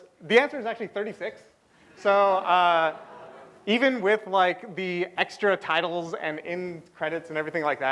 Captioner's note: laughter